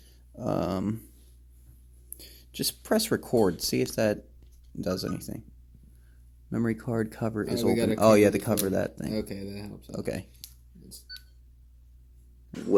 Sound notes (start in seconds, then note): 5.0 beep beep